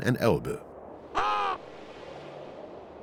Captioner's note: caws